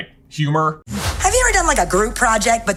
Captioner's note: air whooshing; upbeat music